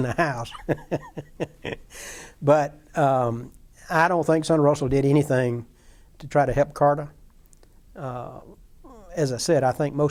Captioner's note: chuckling